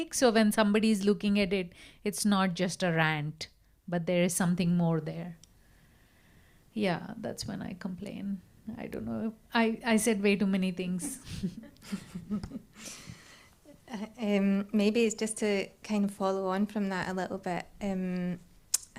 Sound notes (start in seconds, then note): 11.0 laughs